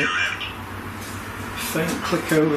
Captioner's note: robotic voice